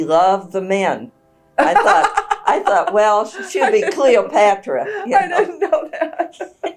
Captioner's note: laughter